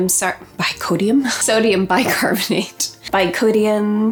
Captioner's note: laughing